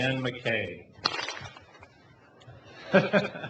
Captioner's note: clap